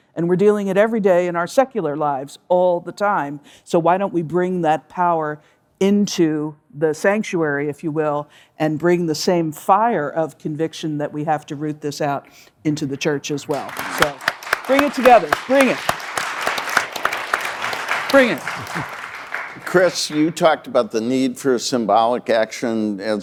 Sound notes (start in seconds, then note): 16.0 audience applauding